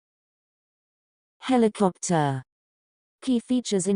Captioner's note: TouchChat voice